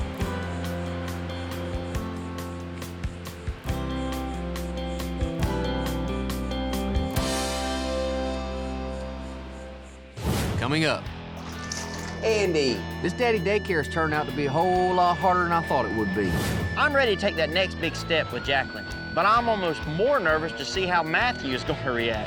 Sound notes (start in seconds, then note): 11.4 splash